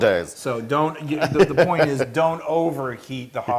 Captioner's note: laugh